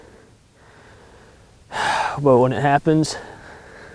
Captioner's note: sighs